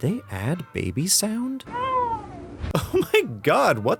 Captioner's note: baby cry